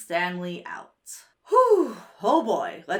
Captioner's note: sighs